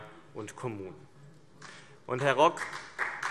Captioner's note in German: Beifall BÜNDNIS 90/DIE GRÜNEN und vereinzelt CDU